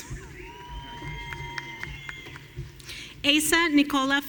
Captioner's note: audience cheering